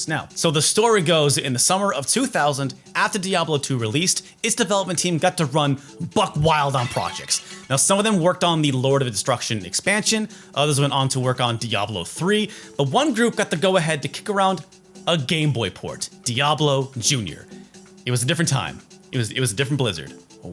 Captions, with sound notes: Now. So the story goes that in the summer of 2000, after Diablo 2 released, its development team got to run buck-wild on projects, [glass shattering] its development team got to run buck-wild on projects, Now, some of them worked on the Lord of Destruction expansion, others went on to work on Diablo 3, but one group got the go-ahead to kick around a Game Boy port: Diablo Junior. It was a different time. It was- it was a different Blizzard.